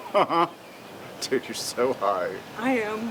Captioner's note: laughs